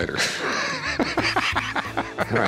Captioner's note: laugh